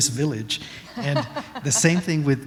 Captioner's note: laughter